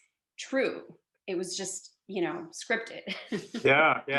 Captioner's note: laughing